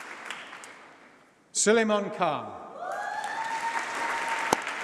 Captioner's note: applause